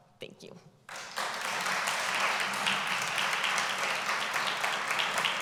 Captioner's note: applause